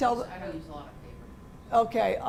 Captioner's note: voiceover